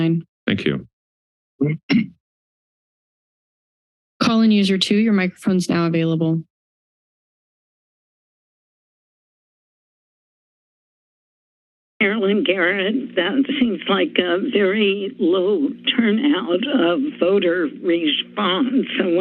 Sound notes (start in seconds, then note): 6.6 silence